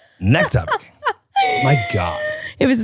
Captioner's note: laughing